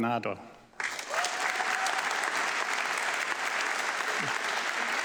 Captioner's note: audience clapping